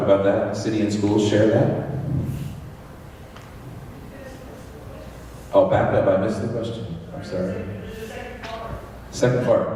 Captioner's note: crowd noise